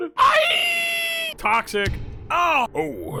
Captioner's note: yells